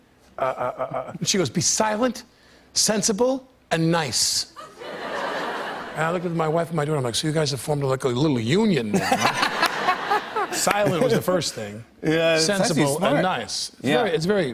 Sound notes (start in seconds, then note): 4.6 laughter; 8.9 laughter